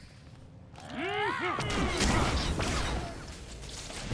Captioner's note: gunshots